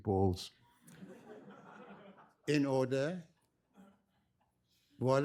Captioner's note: laughter